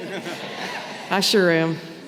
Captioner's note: audience laughing